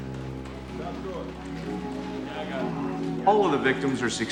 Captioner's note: indistinct chatter